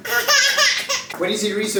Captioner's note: baby cries